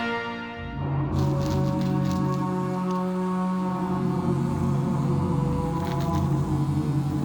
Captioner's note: eerie music; string trimmer buzzes